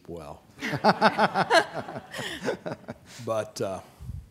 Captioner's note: laughing